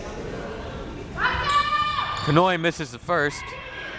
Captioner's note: crowd members shouting